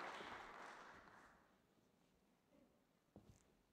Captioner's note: applause